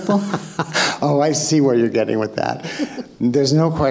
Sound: laughing

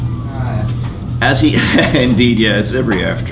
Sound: student off mic

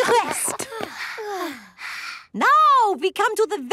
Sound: panting

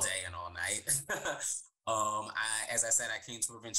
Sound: laughs

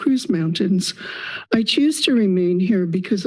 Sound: inhales

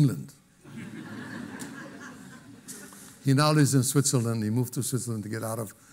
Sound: laughter

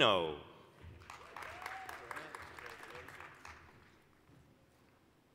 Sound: applause

